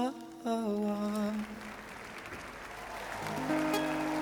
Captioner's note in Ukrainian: оплески